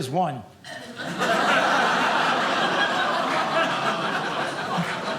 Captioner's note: audience laughing